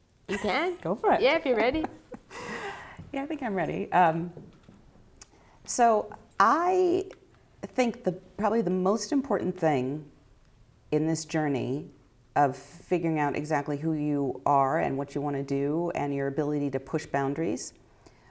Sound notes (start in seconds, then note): 1.7 laughter